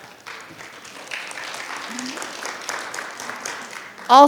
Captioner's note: audience claps